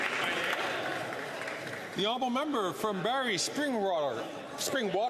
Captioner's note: some Applause